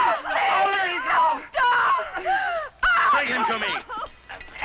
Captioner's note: yelling and crying